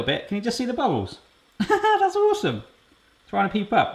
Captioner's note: lightly laughs